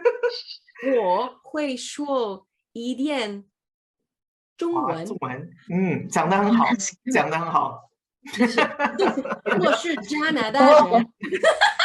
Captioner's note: Mandarin